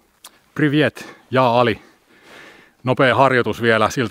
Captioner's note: in Russian